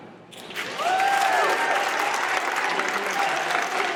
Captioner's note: audience applauds